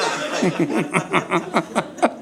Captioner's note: audience laughing